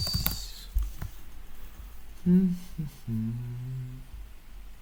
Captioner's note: typing noise